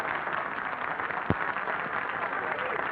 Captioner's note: applause